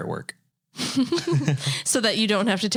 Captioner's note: both laughing